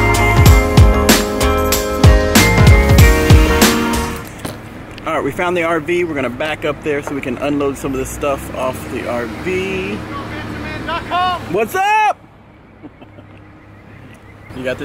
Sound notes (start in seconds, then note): 0.0 happy music; 9.9 passerby yells; 12.7 laughs